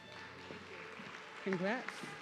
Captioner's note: audience clapping